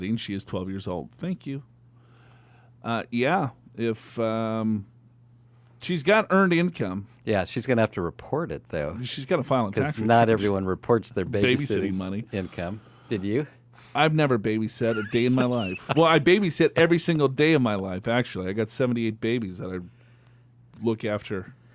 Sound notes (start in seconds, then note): 14.8 laughs